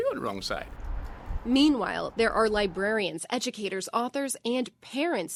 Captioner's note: voice-over